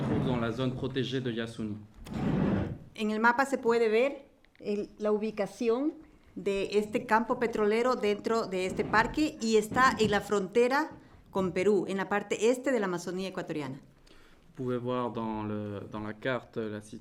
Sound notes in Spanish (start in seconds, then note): 2.7 Español